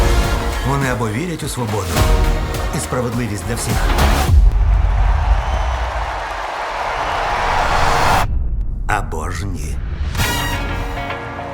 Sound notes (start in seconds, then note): 4.2 crowd cheering